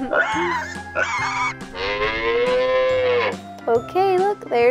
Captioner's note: pig oinking, cow mooing